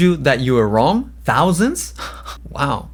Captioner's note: laughs